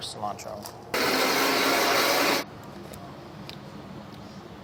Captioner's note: blender whirring